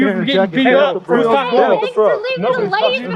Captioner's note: all chattering